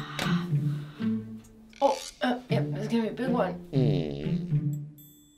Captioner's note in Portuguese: Peido